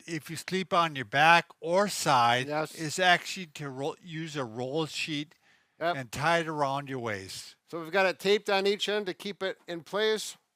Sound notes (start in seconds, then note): none